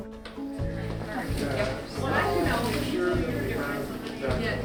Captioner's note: staff chattering